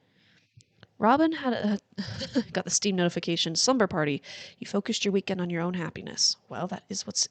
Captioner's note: laughs